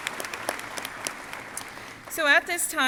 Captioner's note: crowd applauding